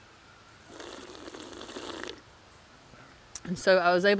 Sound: water bubbling

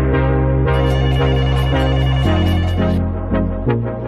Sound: phone ringing

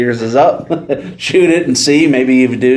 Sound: laughs

